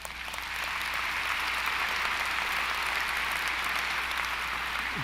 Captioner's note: applause